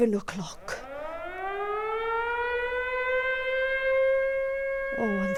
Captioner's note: air raid siren